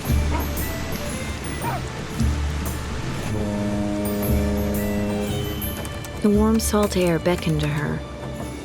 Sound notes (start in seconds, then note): 0.0 dogs barking; 2.7 boat horn; 6.1 typing